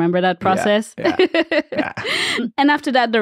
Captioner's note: laughs